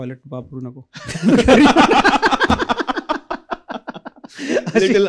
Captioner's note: laughter